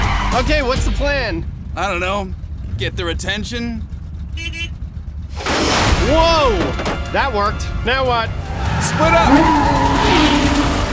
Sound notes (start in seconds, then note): 3.9 horn honking